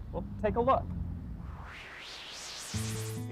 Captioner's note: strong wind